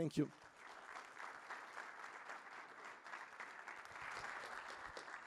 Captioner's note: clapping